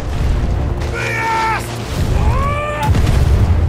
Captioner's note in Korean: 외침